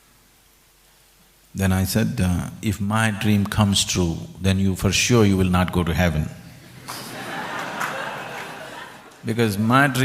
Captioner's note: laughter; 笑聲